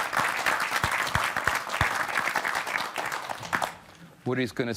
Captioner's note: applause